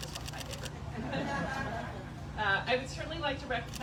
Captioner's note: laughs